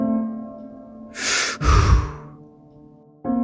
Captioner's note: deep breath